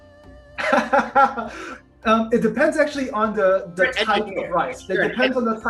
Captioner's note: laughs